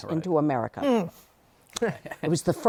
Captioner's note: both laugh